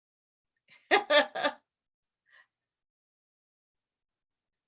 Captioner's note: laughs